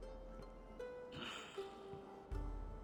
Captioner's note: sigh